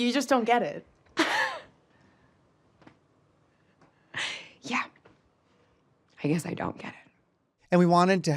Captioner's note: scoffs